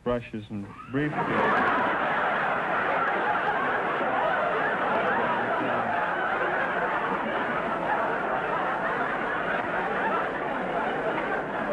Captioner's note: audience laughter